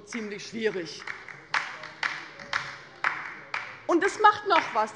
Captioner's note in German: Beifall bei der LINKEN